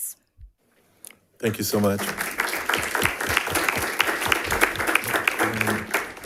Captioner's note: crowd applauding